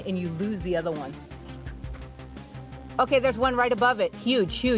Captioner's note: whispers